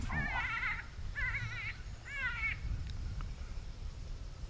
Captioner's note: rabbit squawking